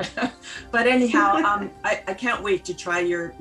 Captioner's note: laughter